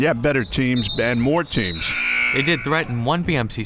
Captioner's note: buzzer ringing